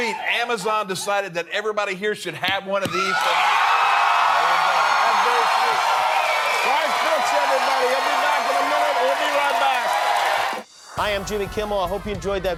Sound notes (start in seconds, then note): 2.8 cheering